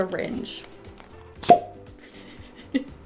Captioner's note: pop